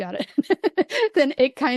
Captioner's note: laughs